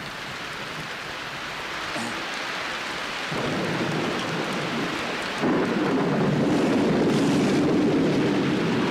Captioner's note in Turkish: yağmur sesi̇